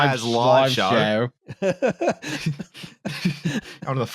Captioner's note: laughs